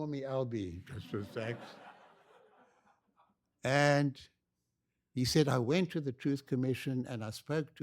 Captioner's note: laughter